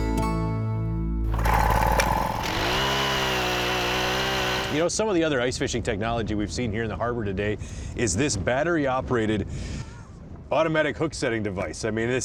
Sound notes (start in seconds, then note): 1.2 auger grinding